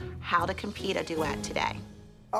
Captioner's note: none